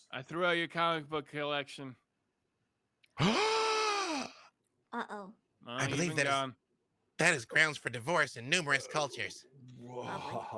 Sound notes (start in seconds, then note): 3.4 gasps